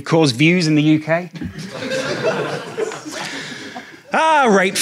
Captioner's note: audience laughs